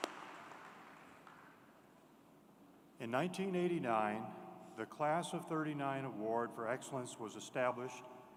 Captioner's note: applause